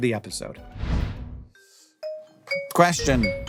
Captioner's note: logo whooshing